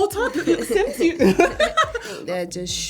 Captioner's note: laughs loudly